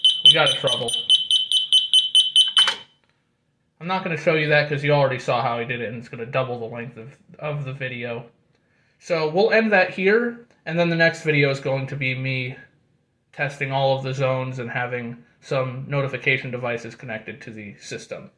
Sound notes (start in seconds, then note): 0.0 obnoxious, pulsating beeping; 0.0 more beeping